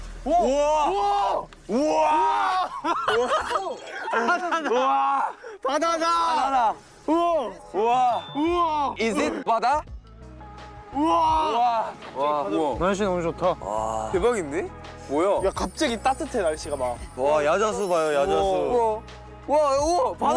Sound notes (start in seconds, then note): 7.6 impressed